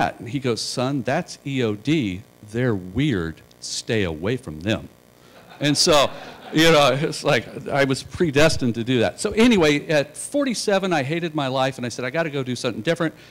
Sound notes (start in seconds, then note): 5.3 laughter